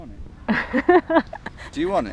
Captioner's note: laughs